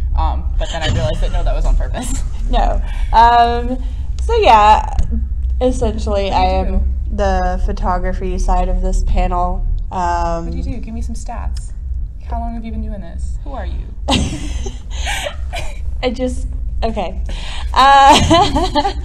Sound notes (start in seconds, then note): 11.2 laughs; 14.1 more laughter